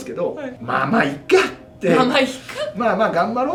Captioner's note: laughs